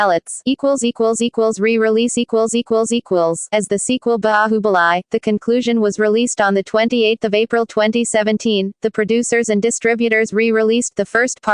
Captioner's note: Hindi